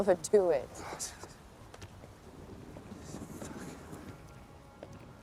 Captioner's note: cursing under his breath